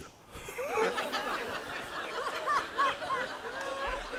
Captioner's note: audience laughs